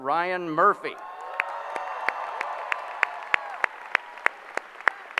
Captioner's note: applause